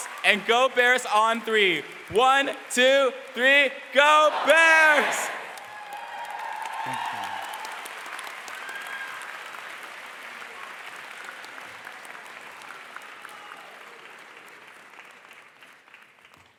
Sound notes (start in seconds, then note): 0.0 foreign language; 4.0 crowd; 8.6 crowd cheering and applause